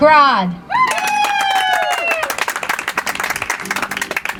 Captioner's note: audience applauds